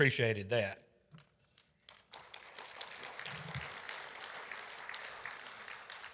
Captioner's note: audience applauding